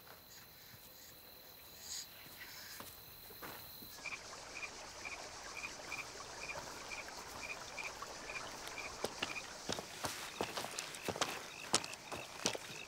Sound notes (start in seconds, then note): 3.9 frogs croaking